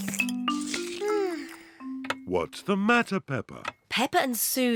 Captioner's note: sighs loudly